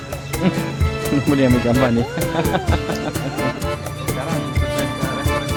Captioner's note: laugh